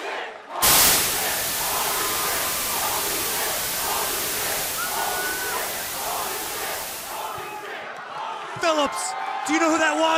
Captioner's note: fans chanting